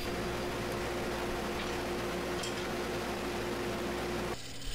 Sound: machinery humming

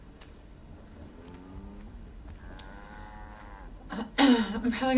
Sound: cows mooing; clears throat

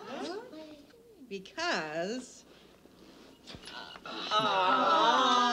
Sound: women applauding; women cheering

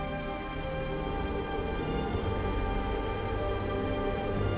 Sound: wind howling

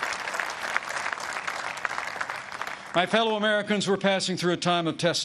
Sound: applause

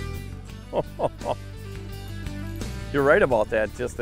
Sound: voiceover; laughing

